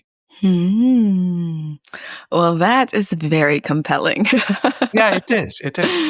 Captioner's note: laughs